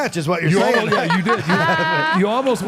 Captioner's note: Michelle laughs